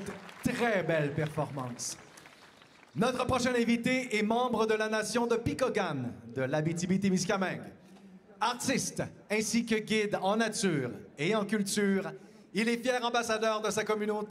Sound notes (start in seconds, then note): 0.0 cheers and Applause; 2.4 speaking French; 13.6 speaking French